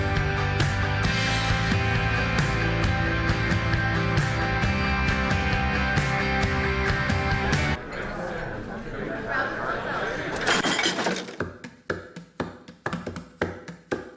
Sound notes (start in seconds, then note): 7.7 background chatter; 12.0 rhythmic guitar music